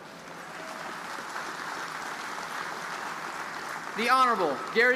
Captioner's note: audience applauding